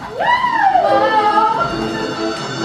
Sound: shouting; energetic music

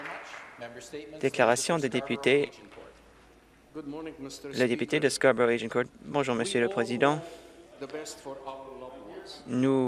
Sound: some applause

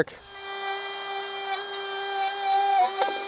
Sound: drilling

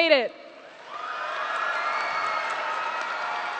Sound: applause

